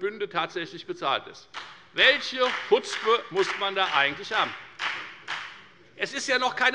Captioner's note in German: Beifall bei der FDP